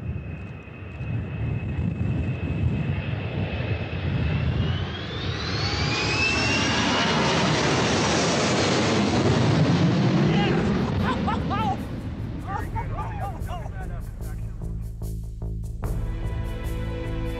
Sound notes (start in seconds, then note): 4.0 airplane engines sound